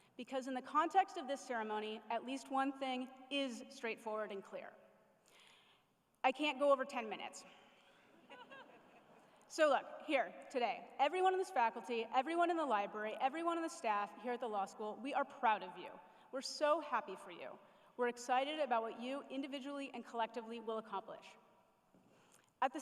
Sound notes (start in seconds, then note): 8.2 chuckles